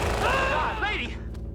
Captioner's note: screams